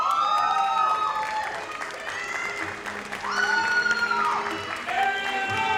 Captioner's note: audience cheers and applauds